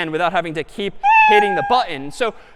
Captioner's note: meow